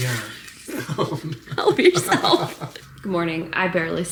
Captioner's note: both laughing